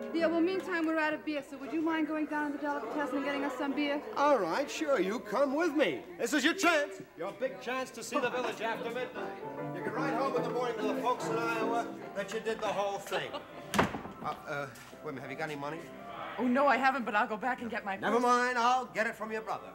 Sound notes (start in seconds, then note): 13.6 door shuts